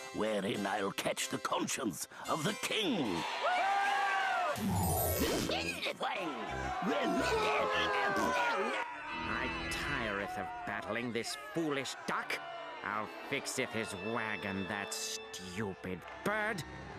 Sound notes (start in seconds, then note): 3.1 audience cheering; 6.8 audience booing